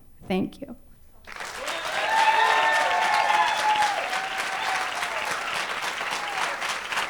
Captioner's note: cheering and applause